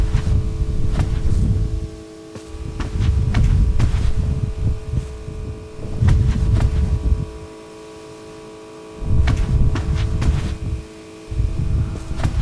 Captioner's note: footsteps